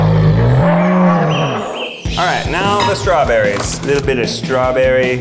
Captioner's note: bear groans